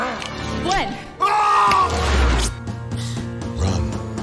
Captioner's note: shouting